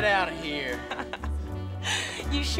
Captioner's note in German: lacht